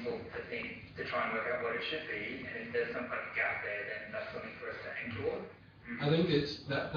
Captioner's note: audio distorts